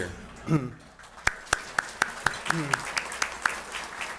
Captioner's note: applause